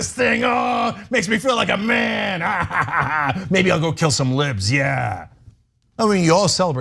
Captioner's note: laugh